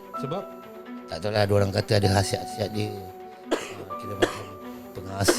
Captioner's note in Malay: batuk